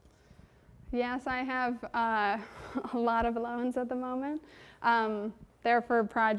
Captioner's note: chuckles